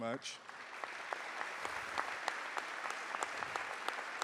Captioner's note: applause